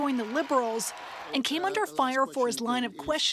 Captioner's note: cheering and Applause